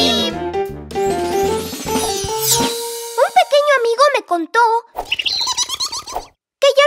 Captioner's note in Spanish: Sonido de pájaro